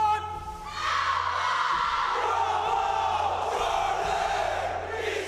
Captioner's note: candidates yelling